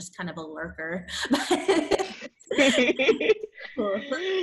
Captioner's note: laughs